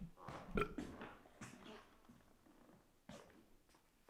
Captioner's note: Jacob burps